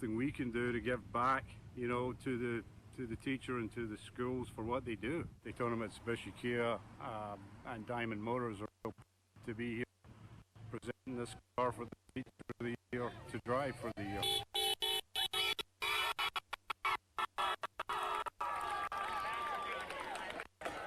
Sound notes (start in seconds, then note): 14.1 horn honking; 17.2 cheering